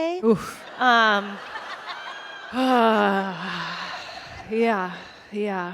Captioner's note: laughter